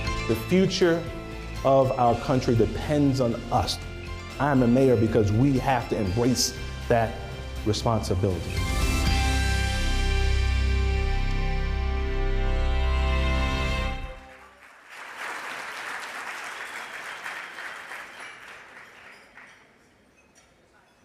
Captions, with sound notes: The future of our country depends on us. I am the mayor because we have to embrace that responsibility. (dramatic music) (applause)